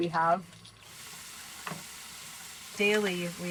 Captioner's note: bacon sizzling in pain